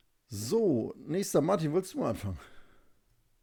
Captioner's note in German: none